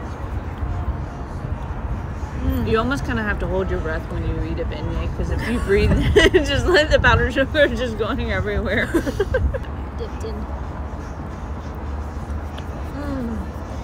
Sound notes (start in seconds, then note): 6.0 laughs